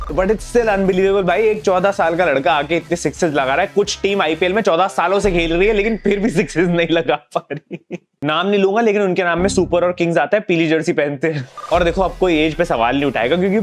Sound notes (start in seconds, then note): 7.4 laughing